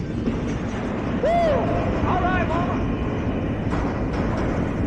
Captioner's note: train rumbles